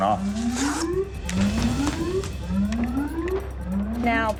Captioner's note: alarm ringing